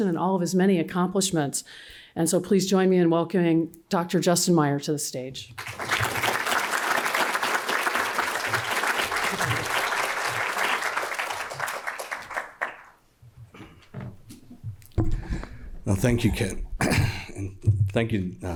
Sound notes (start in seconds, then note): 5.5 applause